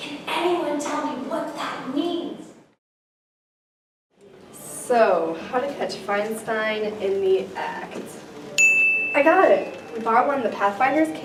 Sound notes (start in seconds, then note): 8.6 ding